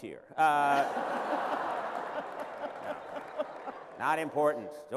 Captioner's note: laughter